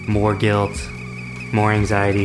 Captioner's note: teakettle gets louder